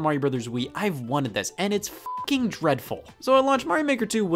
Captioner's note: beep